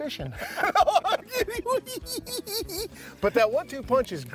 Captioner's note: both laughing